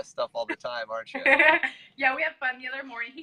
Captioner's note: chuckles